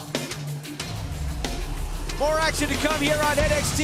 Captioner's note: crowd cheering